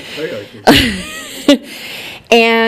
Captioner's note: laughing